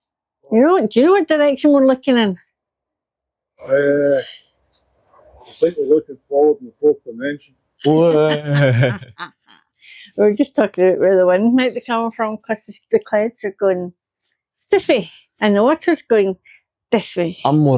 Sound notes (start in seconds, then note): 8.0 laughter